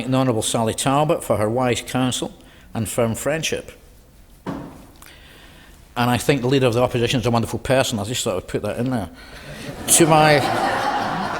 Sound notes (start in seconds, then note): 9.4 laughter